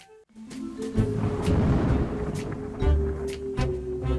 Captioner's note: pensive music; thunder crashing; jaunty inquisitive music